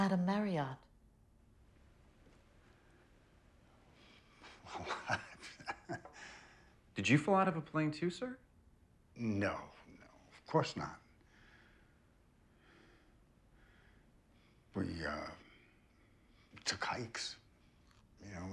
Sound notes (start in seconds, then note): 4.3 Richard chuckling; 4.5 Richard stammering